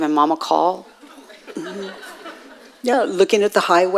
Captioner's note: audience laughing